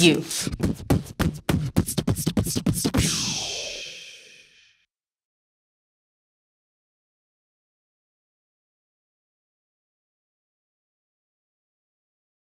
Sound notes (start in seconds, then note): 0.0 finale dual beatboxing; 2.9 fades to silence